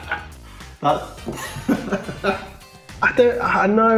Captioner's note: laughs